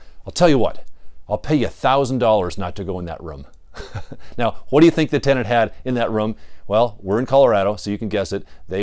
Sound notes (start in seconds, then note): 3.7 laughs